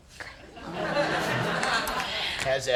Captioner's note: audience laughing